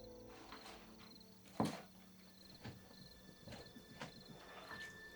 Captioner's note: crickets